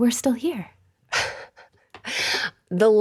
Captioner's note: laughs